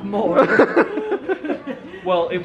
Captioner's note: laughing